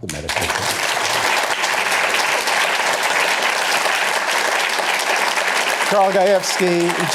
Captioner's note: applause